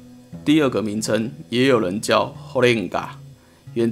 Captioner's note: Taiwanese